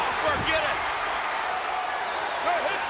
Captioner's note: crowd cheers